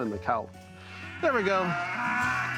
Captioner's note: cows moo